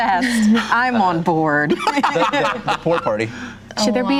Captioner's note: laughing